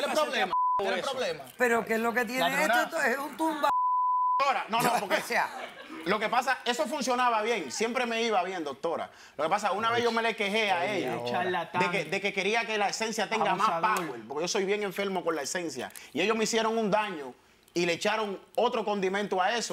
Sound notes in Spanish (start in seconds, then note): 3.6 Bip